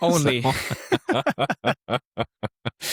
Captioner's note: laughing